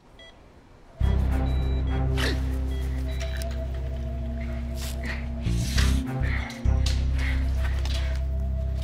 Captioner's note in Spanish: Pitido